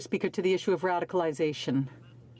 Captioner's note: speaking in french